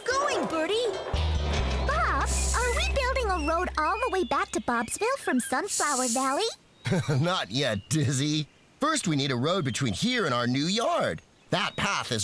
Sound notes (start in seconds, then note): 6.8 laughs